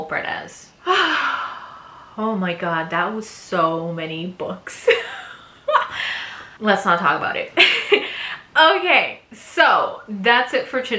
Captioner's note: sigh